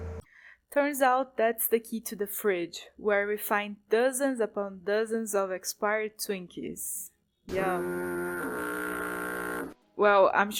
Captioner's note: SpongeBob foghorn